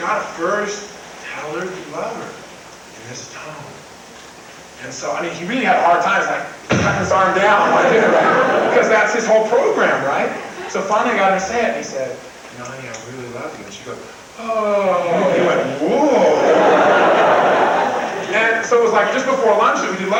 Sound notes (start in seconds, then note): 6.6 bang; 7.1 crowd laughs; 15.0 crowd laughs